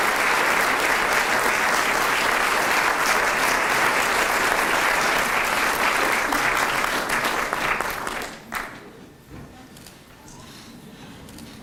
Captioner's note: applause